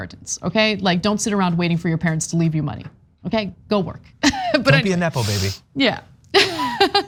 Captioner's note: laugh